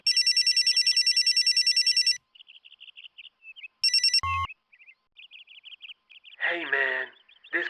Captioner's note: phone ringing